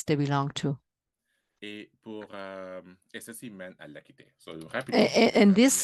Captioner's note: speaking french